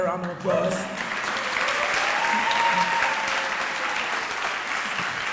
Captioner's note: audience applauding